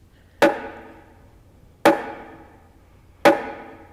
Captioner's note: axe pounding